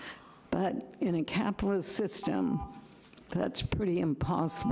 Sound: timer buzzing

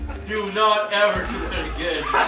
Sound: laughs

